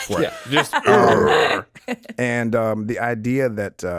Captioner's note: chuckling; Justin grunting